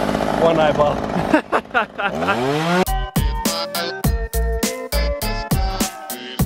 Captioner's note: electronic music; chainsaw growls